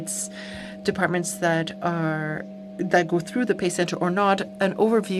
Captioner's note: speaking french